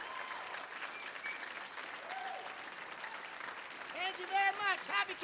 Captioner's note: audience clapping; audience cheering